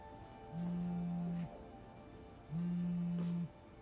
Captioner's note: phone buzzing